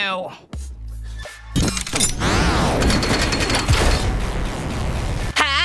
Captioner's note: electronic noises